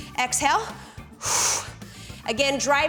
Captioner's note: exhales